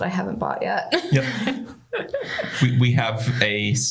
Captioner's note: laughter